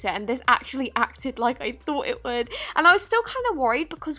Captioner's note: deep breath